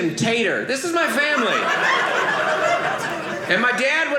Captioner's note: audience laughing